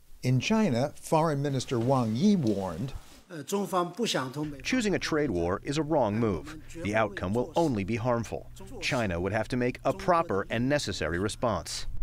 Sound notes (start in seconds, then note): 4.1 through translator